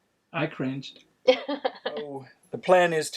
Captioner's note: laughing